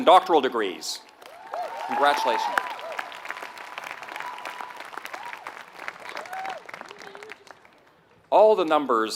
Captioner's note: applause